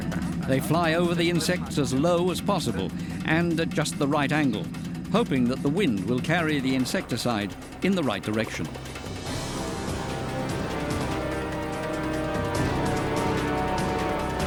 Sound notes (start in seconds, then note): 9.0 dramatic music; 9.0 helicopter rumbling